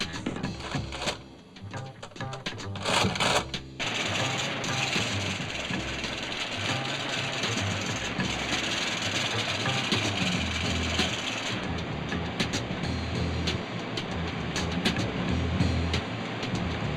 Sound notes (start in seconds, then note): 0.6 machine rattles; 2.8 machine rattles; 3.8 printer chattering; 11.4 jazz beat